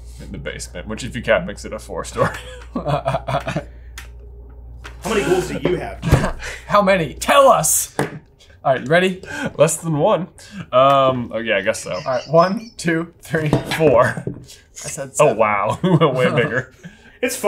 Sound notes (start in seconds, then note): 2.2 both chuckling